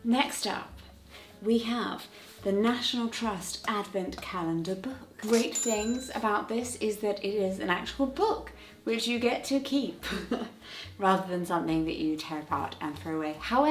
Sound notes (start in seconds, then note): 10.0 chuckles